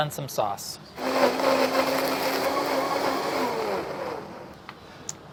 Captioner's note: blender whirring